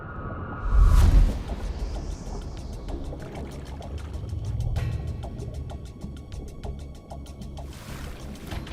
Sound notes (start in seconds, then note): 1.0 water splashing; 1.0 dramatic music